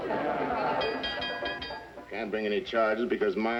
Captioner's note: bell rings